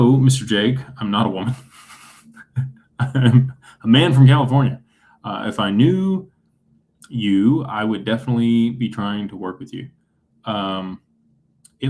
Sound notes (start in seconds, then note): 1.4 laughter